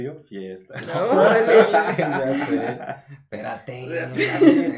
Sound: laughter mixed w/ "Oh shit!" O.O

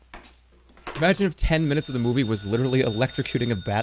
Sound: phone rings

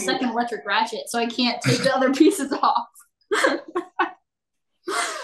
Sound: laughs

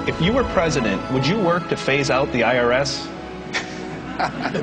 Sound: laughter

